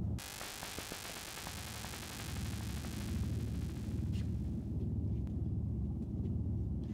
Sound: electric arcing

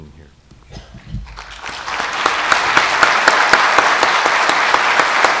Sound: audience applauds

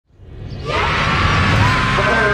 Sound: cheering

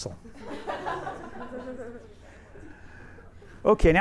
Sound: everyone laughs

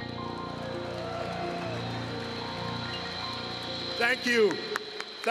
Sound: applause

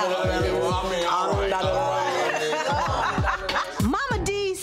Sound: Momma Dee speaking gibberish

